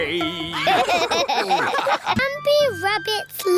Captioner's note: all laughing